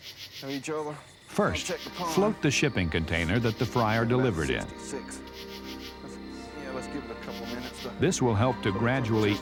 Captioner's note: voiceover